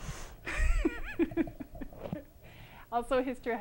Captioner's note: laughter